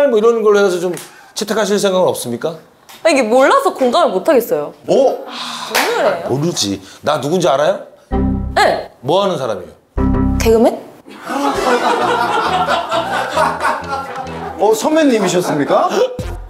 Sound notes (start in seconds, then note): 11.1 hahahaha